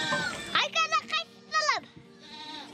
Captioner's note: child speaks in Mongolian